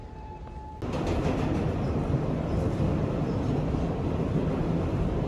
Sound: footsteps; train clacking

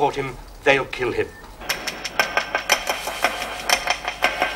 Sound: clock ticking

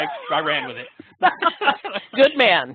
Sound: laughing

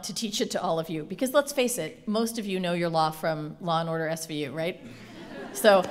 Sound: laughter

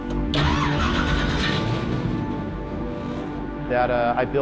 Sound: engine starting

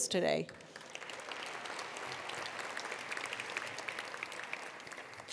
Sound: attendees applauding

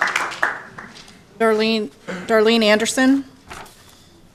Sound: applause

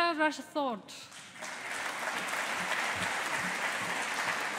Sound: audience applauding

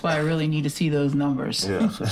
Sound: laughs

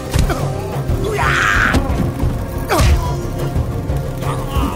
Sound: man screaming

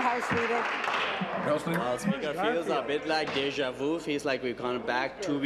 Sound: applause

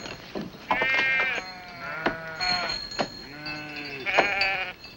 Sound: sheep bleating

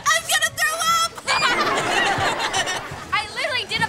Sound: laughing

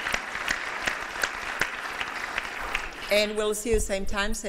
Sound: applause

